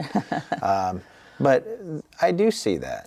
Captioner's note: chuckles